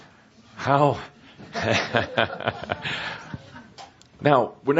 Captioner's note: chuckles at his own joke